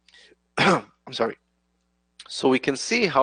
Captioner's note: coughs